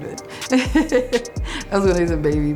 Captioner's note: laughing